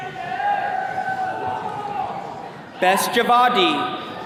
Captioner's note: attendees cheering